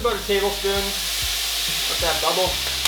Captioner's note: loud sizzling